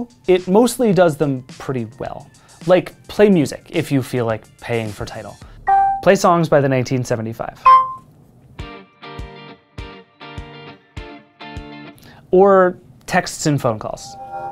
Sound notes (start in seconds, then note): 5.7 pin beeping; 7.6 lively music; 7.6 pin beeping